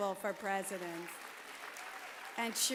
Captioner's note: applause